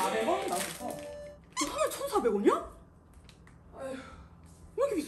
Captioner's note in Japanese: ため息